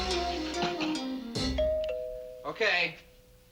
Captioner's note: doorbell ringing